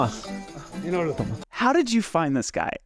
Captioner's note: speaking in a foreign language